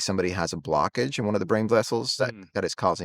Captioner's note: hums